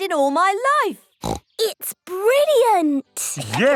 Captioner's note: laughs